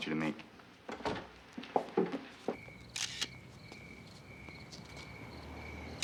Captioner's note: camera shutter clicking